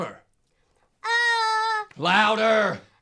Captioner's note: Leah yells slightly louder